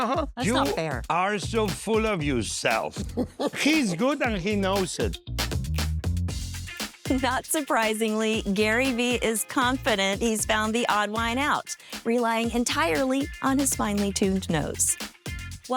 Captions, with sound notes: - That's not fair. - You are so full of yourself. [laughing] He's good and he knows it. Not surprisingly, Gary V. is confident he's found the odd wine out, relying entirely on his finely tuned nose.